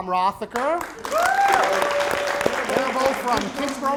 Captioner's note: applause